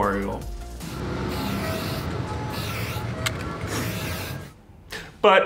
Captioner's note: aerosol can spray